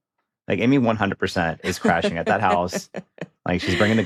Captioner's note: chuckles